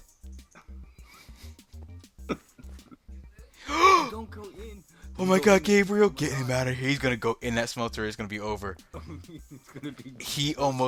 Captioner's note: gasps